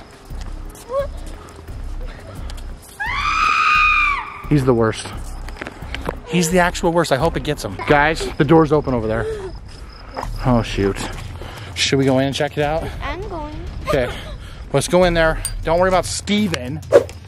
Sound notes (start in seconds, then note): 3.0 screams